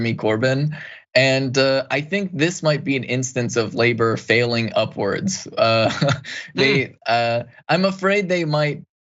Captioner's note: laugh